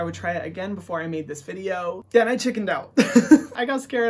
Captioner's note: laughs